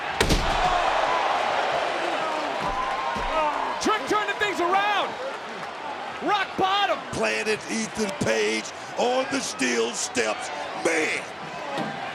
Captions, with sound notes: (crowd gasps) Trick turning things around. Rock Bottom. Planted Ethan Page on the steel steps! Man!